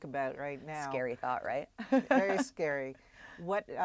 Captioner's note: laugh